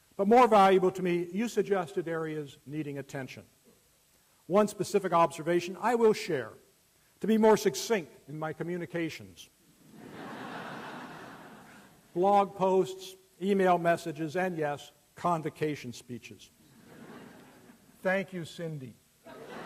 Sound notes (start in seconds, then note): 9.8 laughter; 19.2 laughter